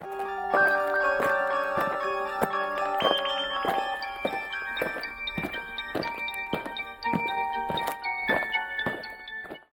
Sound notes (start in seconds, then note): 0.0 eerie music; 4.2 aliens marching